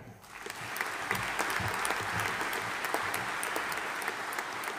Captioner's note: audience applauding